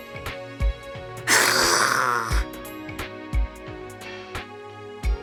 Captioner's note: hiss